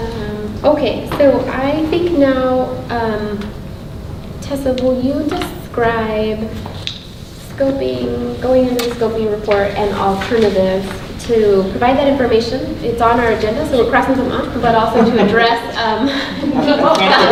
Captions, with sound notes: - Okay so I think now, Tessa, will you describe scoping, going into the scoping report and alternatives to provide that information? It's on our agenda so we're crossing them off but also to address (laughing drowns out speaker).